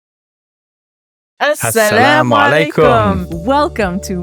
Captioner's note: both speaking non-English language